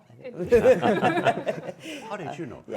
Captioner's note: laughing